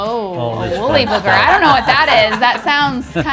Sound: all laugh

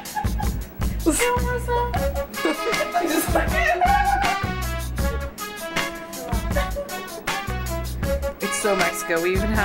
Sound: laughing

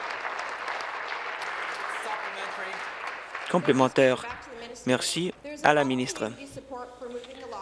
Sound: applause

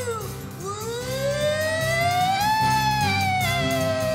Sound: imitating Siren

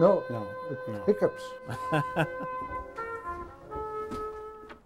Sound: laughing

